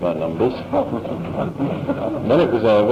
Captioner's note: laughter